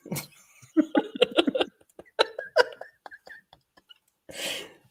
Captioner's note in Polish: śmiech